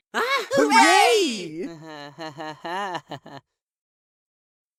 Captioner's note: test tube laughs nervously